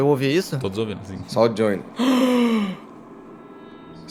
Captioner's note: gasp